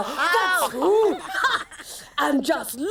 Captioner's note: laughter